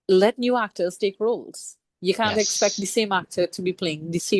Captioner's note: laughs